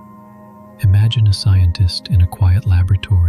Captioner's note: gentle, curious tone